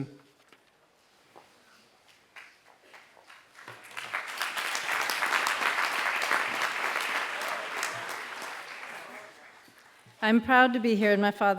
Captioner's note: applause